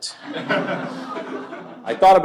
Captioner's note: laughter